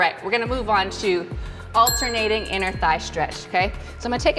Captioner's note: bell rings